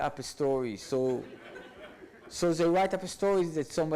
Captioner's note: audience laughs